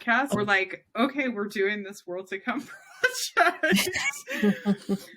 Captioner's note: laughs